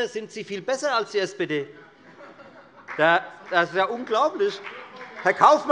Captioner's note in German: Heiterkeit der Abg